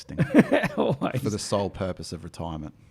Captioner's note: laughs